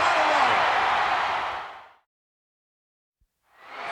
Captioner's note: crowd shout